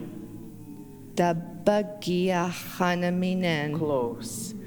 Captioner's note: In Mi’kmaq